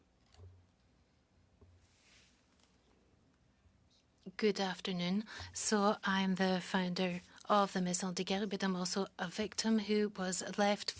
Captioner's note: speaking French